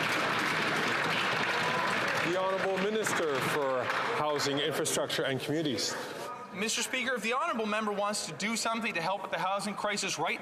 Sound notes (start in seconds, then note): 5.2 some Applause